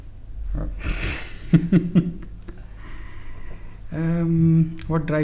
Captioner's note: chuckles